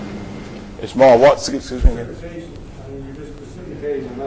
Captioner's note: students talking